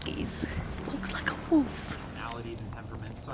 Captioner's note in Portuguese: sussurrando